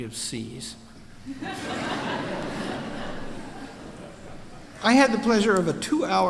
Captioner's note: laughter